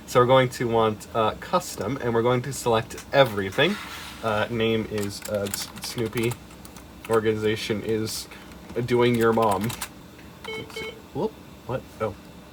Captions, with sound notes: So we're going to want uh, custom, and we're gonna select everything. Uh, name is uh, Snoopie. Organization is... Doing your mom. (BEEP BEEP) Whoop? What? Oh.